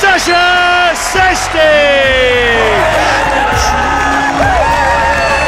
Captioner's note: thunderous cheers and applause